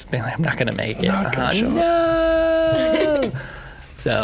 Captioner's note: laughing